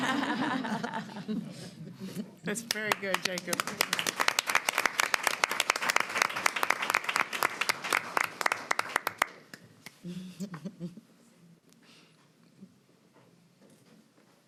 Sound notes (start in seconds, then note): 5.0 laughter; 9.9 applause